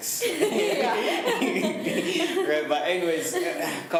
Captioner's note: laughs